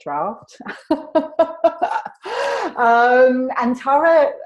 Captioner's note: laughs